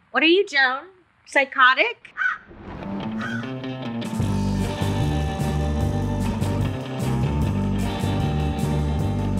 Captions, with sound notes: What are you Joan? Psychotic? (crow calls) (upbeat music)